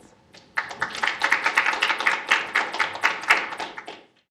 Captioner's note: applause